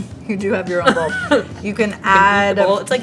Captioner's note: laughs